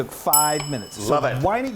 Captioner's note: bell dings